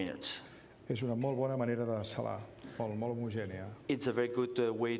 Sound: speaking catalan

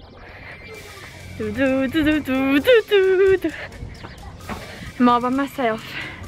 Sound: humming Harry Potter song

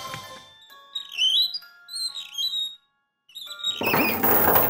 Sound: squeaking

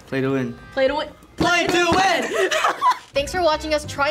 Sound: laughs

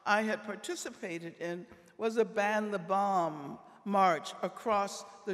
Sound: none

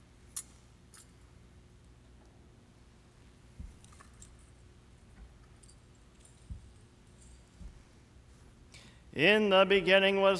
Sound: silence

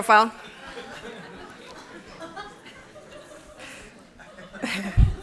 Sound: laughter

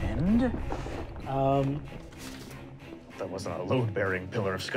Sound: crumbling

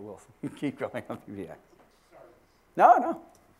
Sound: laugh

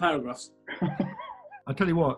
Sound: chuckling

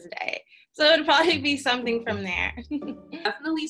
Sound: giggles

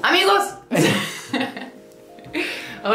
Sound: laughs in Spanish

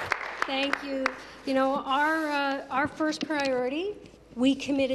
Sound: applause

